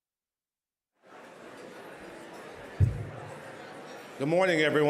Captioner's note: murmuring